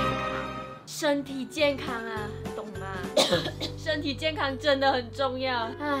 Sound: cough

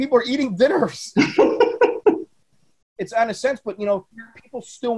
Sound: laugh

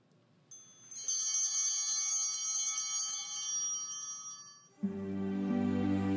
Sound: chimes ringing

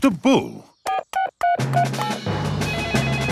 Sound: beeping; phone ringing

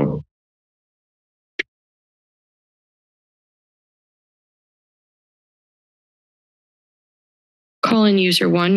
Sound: silence

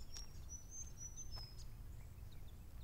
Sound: birds Chirp

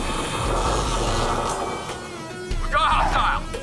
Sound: deep breathe

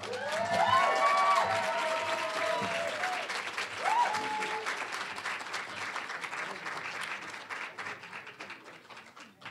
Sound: applause, cheering

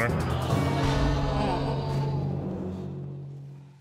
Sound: audience exclaiming

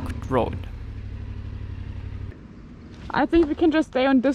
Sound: motorcycle engine idles

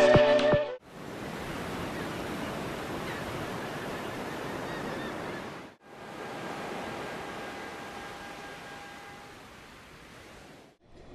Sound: seaside sounds

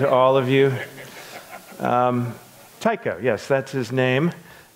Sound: audience laughs

